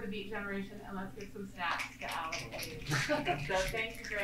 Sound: snapping

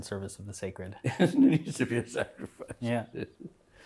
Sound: laughing

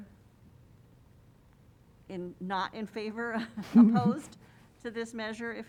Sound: laughter

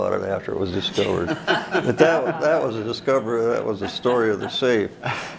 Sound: all laugh

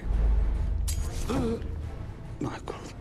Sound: gasps

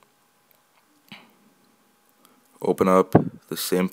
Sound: pause

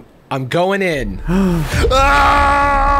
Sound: gasping; shouting

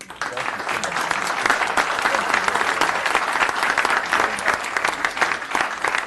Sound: applause

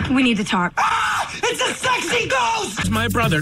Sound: screams

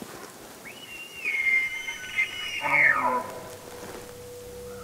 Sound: elk call blows

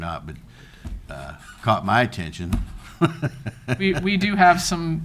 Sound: laughing

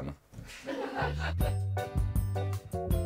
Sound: laughs

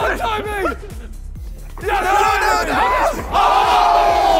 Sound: contestants yelling

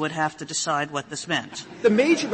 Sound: laughter

